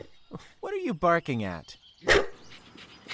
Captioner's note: barks